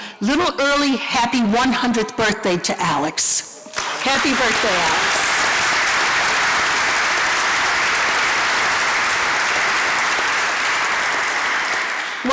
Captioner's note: applause